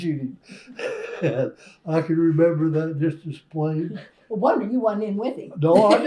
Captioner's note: laughter